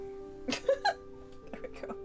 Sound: laughing

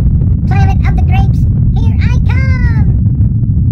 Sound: rocket Jets Rumbling

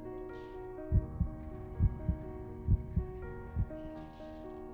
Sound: heart beating

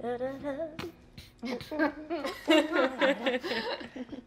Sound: humming

